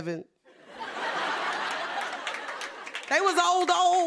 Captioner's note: laughter